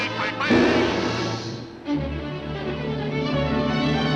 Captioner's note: Daffy thudding